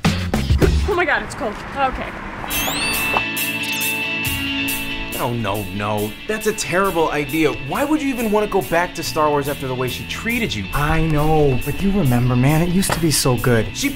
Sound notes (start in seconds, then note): 2.5 Droid Text Message Sound